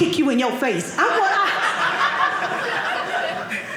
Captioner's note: audience laughing